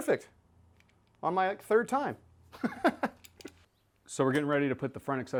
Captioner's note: laughs